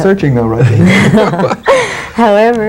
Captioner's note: group laughs